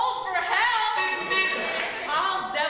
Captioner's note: two honks; laughter